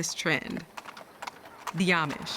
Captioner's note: hooves clopping